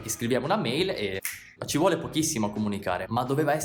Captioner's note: snap